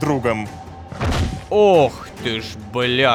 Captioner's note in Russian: Звук падения